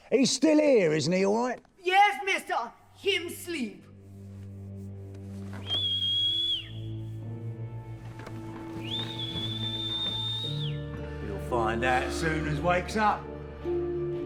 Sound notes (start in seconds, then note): 4.1 light haunting music; 5.5 whistling